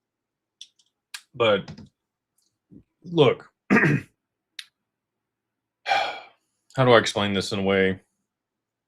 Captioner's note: clears throat